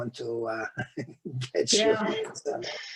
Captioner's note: laughing